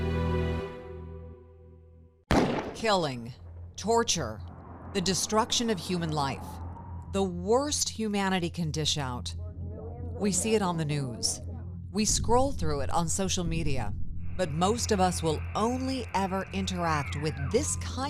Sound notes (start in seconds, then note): 2.3 gun fires